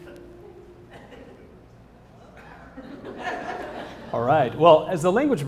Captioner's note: laugh